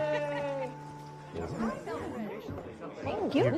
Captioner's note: crowd chattering